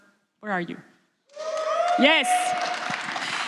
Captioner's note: applause